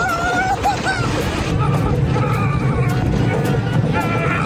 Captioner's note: Ryan screaming